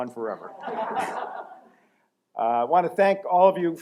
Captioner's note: laughter